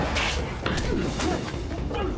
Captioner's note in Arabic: لكمة